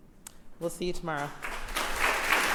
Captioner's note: applause